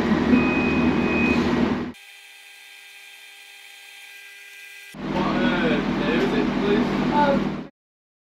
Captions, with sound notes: [alarm beeping] - What er, name is it please?